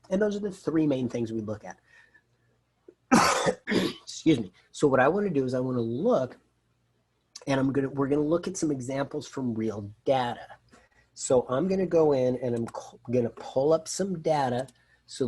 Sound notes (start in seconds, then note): 3.0 coughs